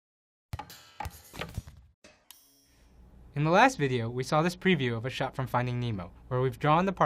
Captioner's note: bouncing